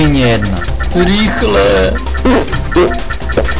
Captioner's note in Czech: Zvuk prdu